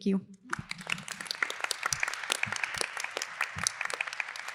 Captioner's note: applause